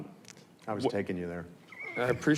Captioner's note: chuckles